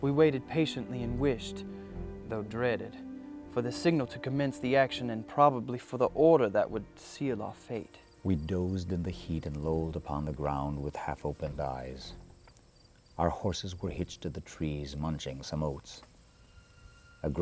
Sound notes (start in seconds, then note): 8.6 voiceover